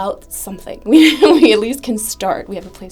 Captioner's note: laugh